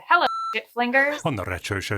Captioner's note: beep